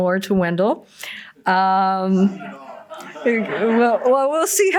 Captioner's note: laughter